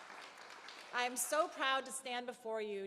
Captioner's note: cheers and Applause